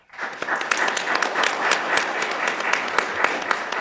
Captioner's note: applause